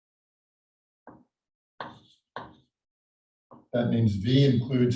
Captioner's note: chalkboard tapping loudly